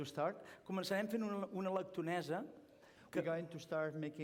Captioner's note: non-english speech